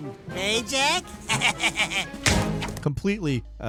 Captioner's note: Daxter laughs